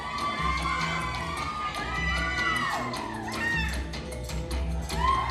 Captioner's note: applause